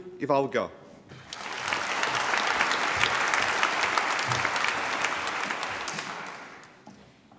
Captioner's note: applause